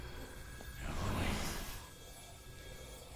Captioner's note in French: cris inquiétants